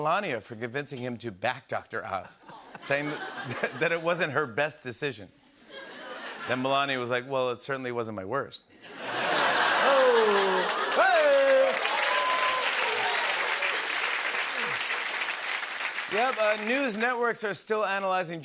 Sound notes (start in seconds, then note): 8.9 laughter and applause; 11.8 cheering and applause